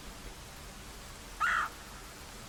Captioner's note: cawk